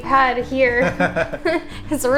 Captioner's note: laughter